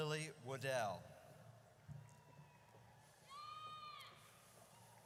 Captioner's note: audience cheers